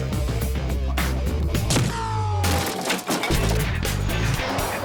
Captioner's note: crash